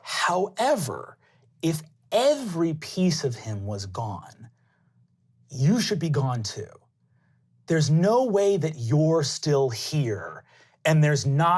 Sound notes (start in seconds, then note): none